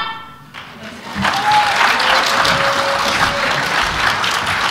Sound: applause

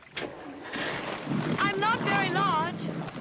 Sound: starts engine

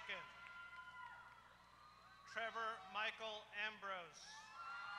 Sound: applause

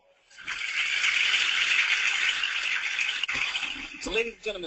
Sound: applause

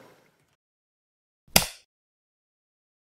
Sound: light switch

